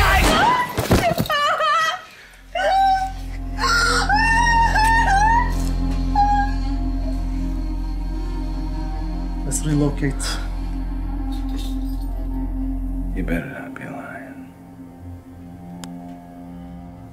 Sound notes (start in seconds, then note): 0.1 thudding; 0.2 gun firing; 4.5 wailing